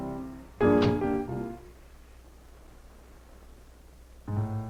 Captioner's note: light upbeat music playing; fridge door closing; playing lightly on piano